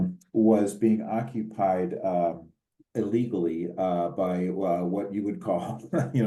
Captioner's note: laugh